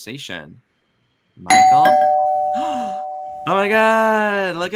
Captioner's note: doorbell dings